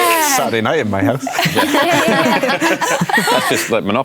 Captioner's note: laughter